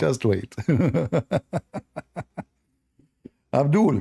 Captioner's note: Ketawa